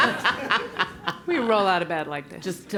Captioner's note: laugh